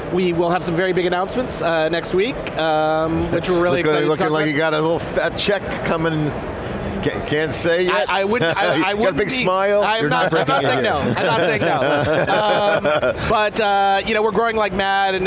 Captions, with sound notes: We will have some very big announcements next week, which we're really excited to talk about. >> Looking like you got a little fat check coming. Can't say yet? >> I wouldn't be- >> Got a big smile. You're not breaking it. >> I'm not saying no. I'm not saying no. (all laughing) But you know, we're growing like mad.